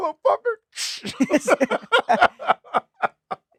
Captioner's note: laughing